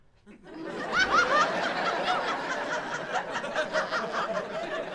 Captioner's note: audience laughing